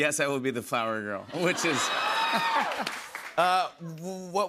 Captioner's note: laughs